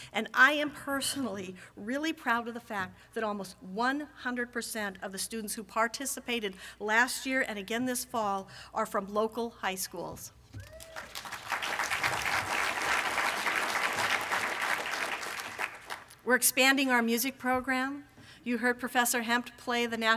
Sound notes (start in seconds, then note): 10.6 applause from audience